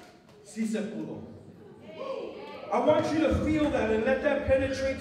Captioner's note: non-english speech